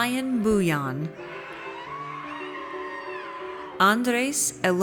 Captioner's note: audience cheers